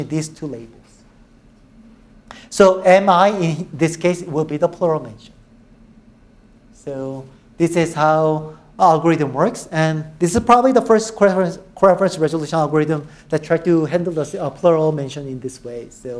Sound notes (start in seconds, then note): none